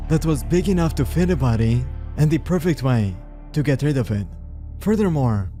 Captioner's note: none